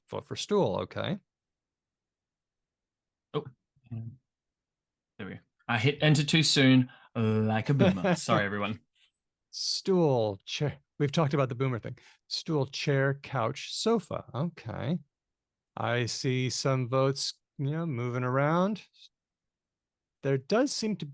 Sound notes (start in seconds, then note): 10.0 laughs